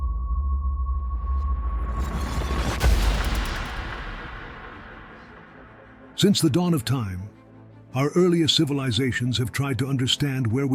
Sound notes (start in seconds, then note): 2.7 air whooshing